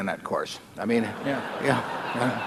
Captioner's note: laughter